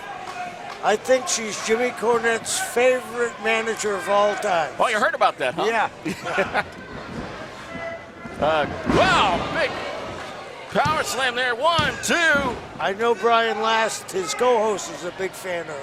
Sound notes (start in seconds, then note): 6.0 both laughing